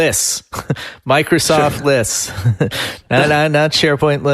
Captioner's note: laughs